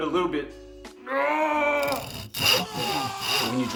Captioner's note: scream